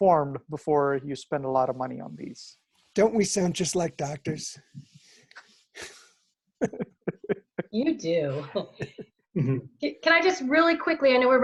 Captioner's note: laughter